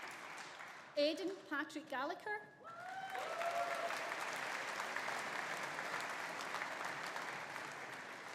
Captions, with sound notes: Aidan Patrick Gallacher. (AUDIENCE APPLAUDING) (AUDIENCE CHEERING)